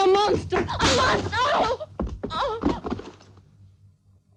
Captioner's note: groaning